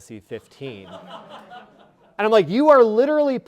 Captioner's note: audience laughing